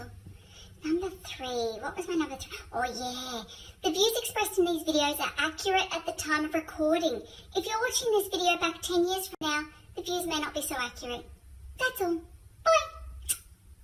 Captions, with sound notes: Number three, what was my number three, oh yeah, the views expressed in these videos are accurate at the time of recording. If you're watching this video back 10 years from now, the views may not be so accurate. That's all, bye. (smooch)